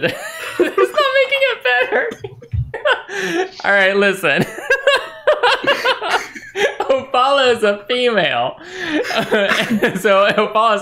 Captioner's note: laughter